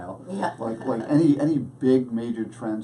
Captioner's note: laughs